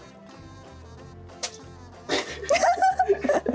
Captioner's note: crack!